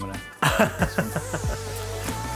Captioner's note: laughing; mellow groove music